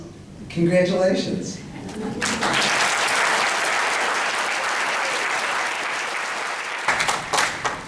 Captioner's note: applause